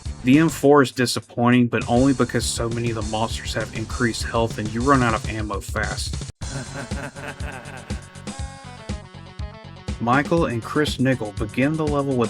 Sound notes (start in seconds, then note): 6.4 evil laugh